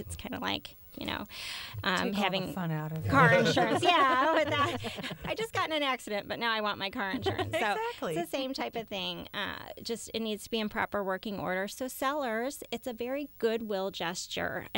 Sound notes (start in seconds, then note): 3.3 laughter